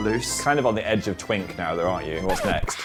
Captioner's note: record scratch